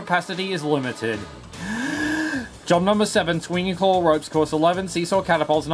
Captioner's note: inhales